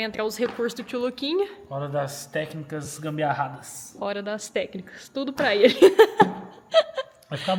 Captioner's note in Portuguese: risadas